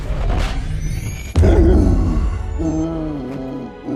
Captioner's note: laboured breathing